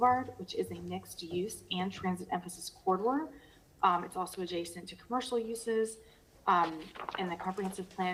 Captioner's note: ~distortion~